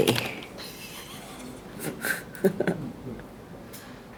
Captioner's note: both giggling